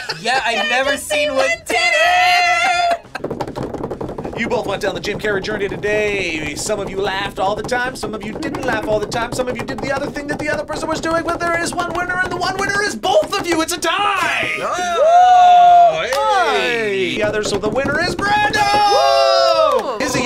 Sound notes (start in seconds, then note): 0.0 laughs; 3.2 both tapping table